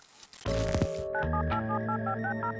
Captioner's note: dialing